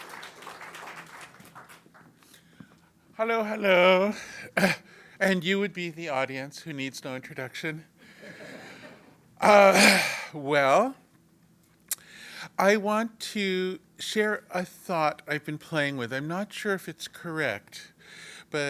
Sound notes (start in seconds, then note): 0.0 applause; 7.8 laugh